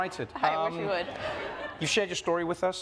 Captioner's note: audience laughs